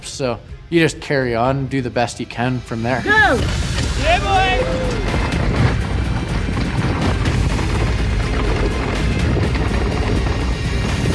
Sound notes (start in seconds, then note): 4.7 air whooshing; 4.7 upbeat music